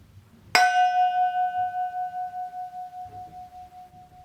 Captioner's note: metal pot ringing